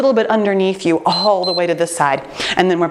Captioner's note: timer beeps